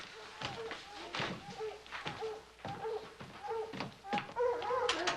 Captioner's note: barking growing louder